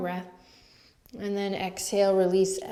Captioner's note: inhales